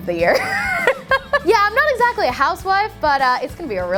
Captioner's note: laughing